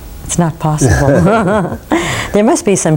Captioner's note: laughing